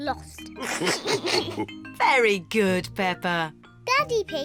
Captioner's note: all laugh